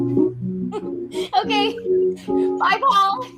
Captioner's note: giggles